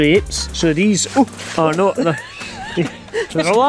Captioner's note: gasps